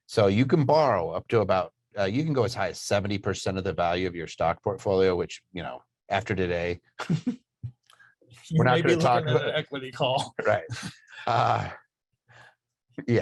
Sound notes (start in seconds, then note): 8.8 chuckling